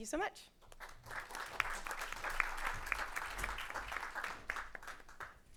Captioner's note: audience clapping